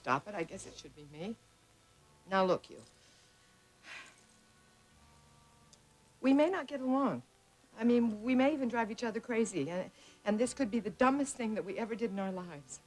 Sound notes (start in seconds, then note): none